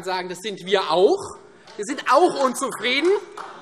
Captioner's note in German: Beifall